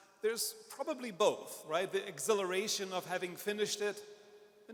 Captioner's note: none